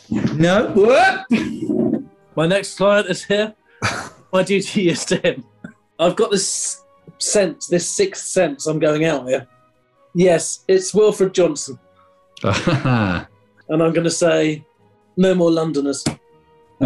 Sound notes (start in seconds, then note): 3.8 chuckling; 12.4 chuckles